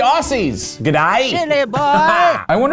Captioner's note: old Man Voice